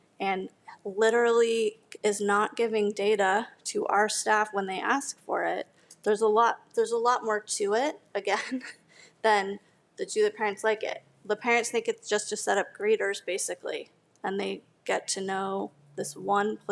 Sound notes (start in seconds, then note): none